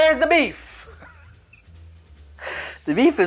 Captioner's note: laughs